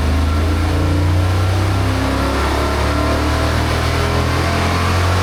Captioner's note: engine revving